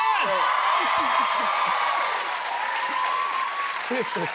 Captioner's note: cheers and applause